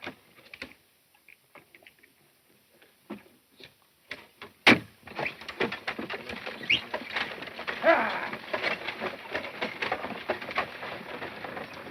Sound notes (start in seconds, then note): 6.6 whistling; 8.9 wagon creaking